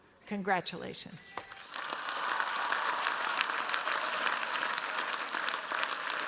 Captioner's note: cheers, applause